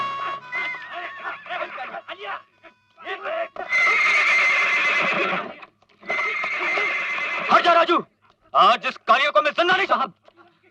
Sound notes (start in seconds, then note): 3.6 horse neighing